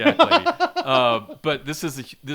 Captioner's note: laughing